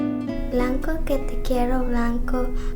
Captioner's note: speaking spanish